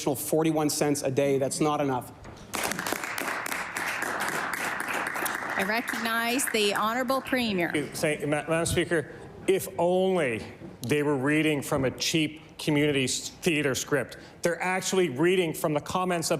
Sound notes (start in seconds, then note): 5.5 applause